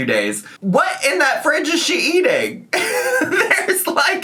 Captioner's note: laughs